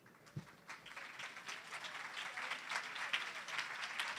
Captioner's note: applause